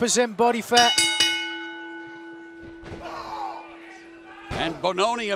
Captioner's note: bell ringing